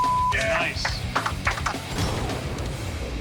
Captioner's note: gunshot